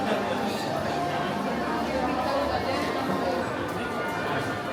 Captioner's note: crowd murmuring